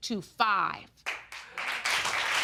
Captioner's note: audience applauding